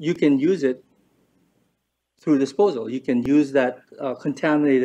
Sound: none

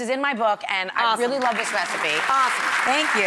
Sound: audience applause

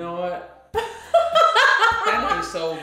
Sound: laughter

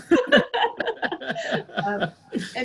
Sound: laughter

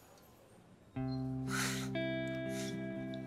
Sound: chuckles

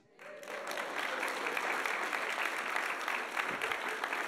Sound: audience applauding

